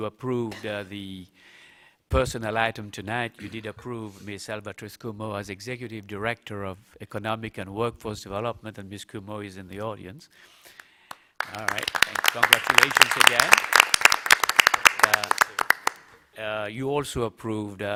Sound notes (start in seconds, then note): 14.8 applause